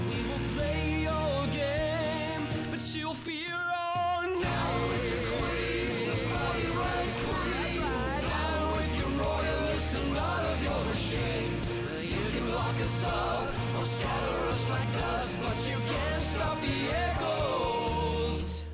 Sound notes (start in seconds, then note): 4.4 crowd